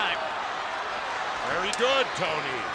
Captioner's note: spectators cheering